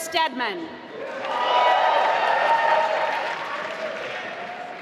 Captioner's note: applause